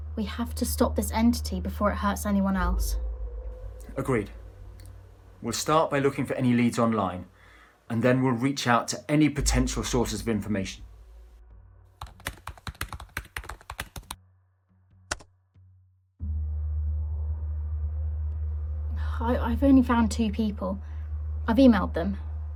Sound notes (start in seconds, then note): 12.0 keyboard clacking